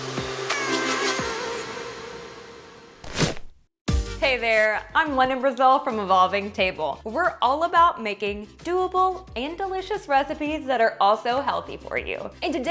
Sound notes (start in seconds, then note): 3.0 pumpkin squishes